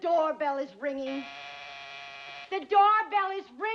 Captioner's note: buzz